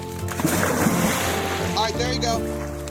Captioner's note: dog splashing